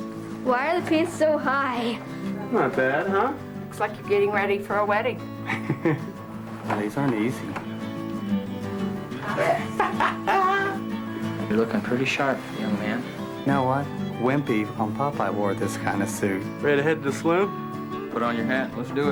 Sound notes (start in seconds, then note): 5.4 chuckles; 9.1 laughs